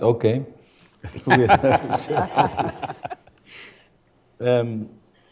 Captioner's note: everyone laughing